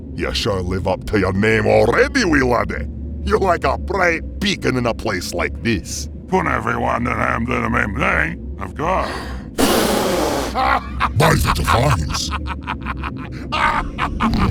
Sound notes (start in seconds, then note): 9.0 gasps; 9.5 blows air; 9.6 laughs hard; 12.4 continues to laugh hard; 14.3 Ceyeborg subtly snickers slightly